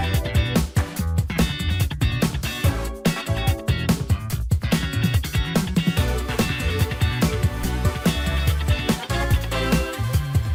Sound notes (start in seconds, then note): none